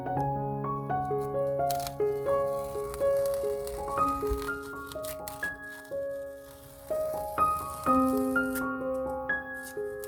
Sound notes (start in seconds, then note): 3.4 peeling off masking tape sounds